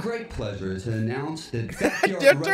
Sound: laugh

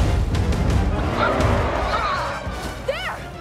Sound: triumphant cheers

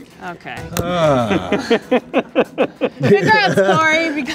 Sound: laughing

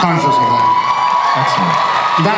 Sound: audience cheers

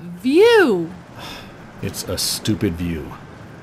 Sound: sigh

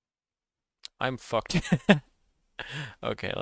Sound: laughs

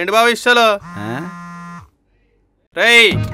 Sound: mobile vibrates

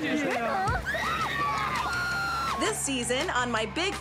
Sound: screaming

